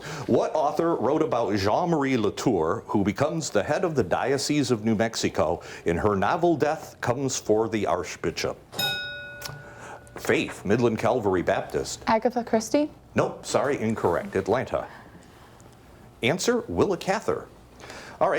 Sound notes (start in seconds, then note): 8.7 bell dings